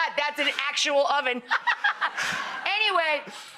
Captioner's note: laughs